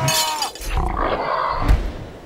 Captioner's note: nerd roar